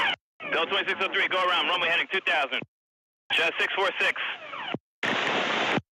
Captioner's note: beeping